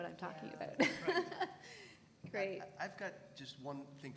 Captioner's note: laugh